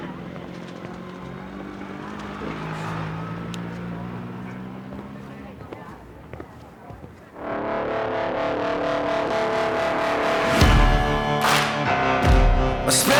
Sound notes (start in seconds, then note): 1.1 engine rumbling; 7.4 industrial music